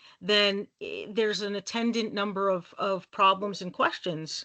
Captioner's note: none